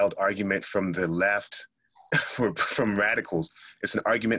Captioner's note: laughs